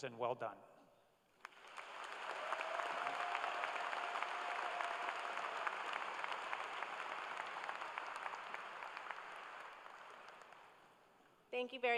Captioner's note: cheers and applause